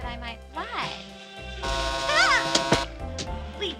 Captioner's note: vibrating